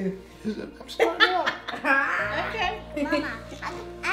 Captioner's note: laughing